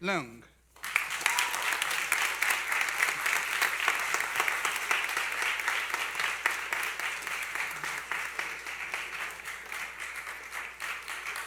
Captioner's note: applause